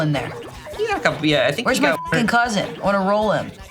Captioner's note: beep